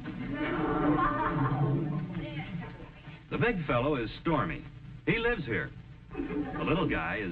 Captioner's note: audience snickering